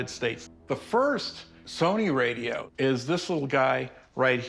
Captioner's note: none